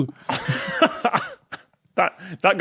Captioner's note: laughs